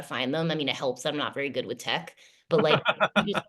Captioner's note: laughter